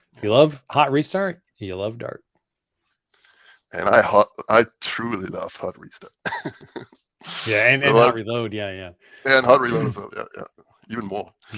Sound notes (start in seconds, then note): 6.0 laughs